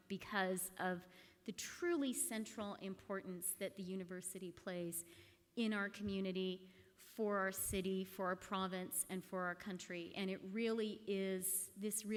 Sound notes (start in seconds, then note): none